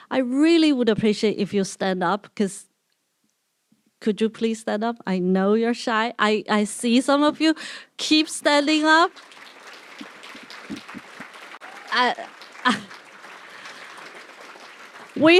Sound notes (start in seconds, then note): 8.4 applause